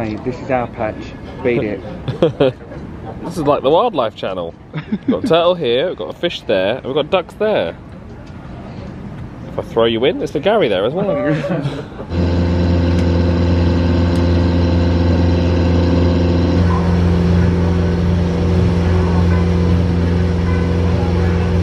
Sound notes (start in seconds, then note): 2.0 laughs; 4.7 laughs; 11.1 laughs; 12.3 boat engine